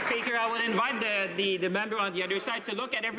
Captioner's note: some Applause